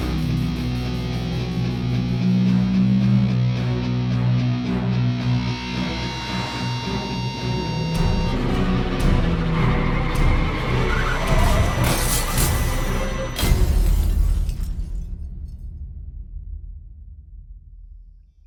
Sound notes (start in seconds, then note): 0.7 dramatic music; 9.6 car wheels screeching; 13.3 glass breaking